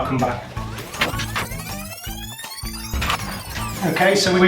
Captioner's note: fast forward winding and slowing